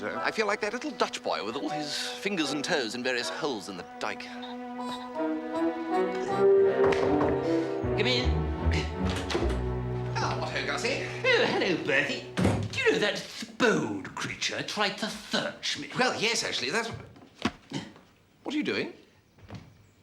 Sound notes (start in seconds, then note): 6.7 knocks at door